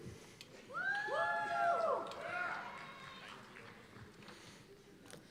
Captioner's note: cheers and applause